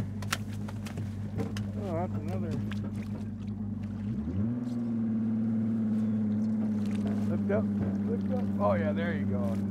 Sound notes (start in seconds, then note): 1.7 boat engine revving; 6.6 fish splashing